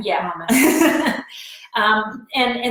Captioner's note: laughs